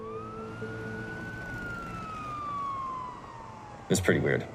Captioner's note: siren blaring